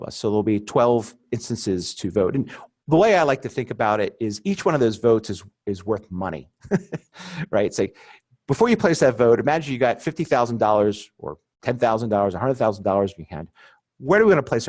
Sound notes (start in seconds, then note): 6.6 chuckling